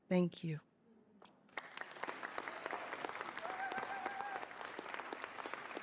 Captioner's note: cheering